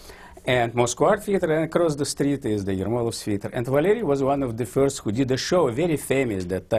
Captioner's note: russian; russian